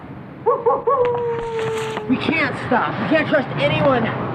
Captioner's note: wolf howling